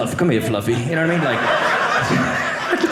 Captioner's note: audience laughing